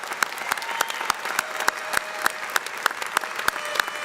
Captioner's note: applause; horn sounding